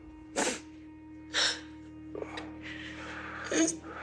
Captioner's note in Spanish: Sollozos